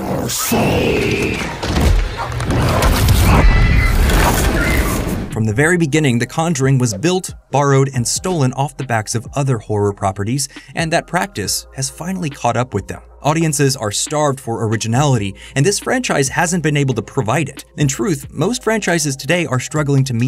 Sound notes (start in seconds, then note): 0.7 screaming